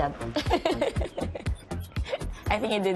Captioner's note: laughs